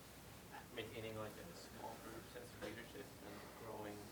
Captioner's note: voiceover